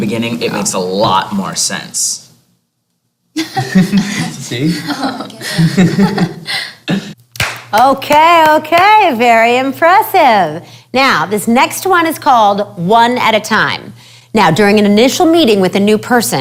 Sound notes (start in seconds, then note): 3.3 laughter; 7.3 clapping